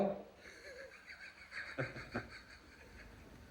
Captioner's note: laughing